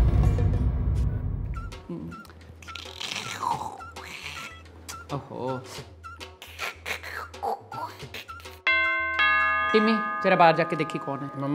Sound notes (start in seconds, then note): 2.5 Pammi making weird noises; 8.7 doorbell ringing